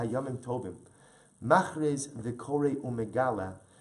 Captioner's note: Hebrew